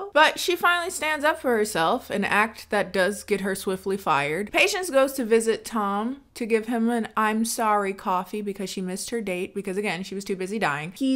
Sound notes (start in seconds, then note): none